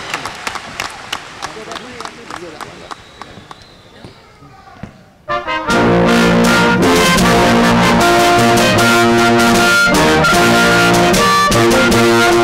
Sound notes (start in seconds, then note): 0.0 cheering; 0.0 applause